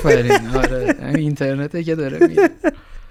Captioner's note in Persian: خنده